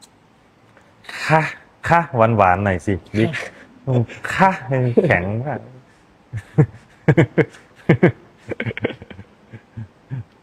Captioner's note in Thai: เสียงหัวเราะ